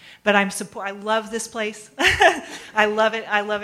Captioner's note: laughs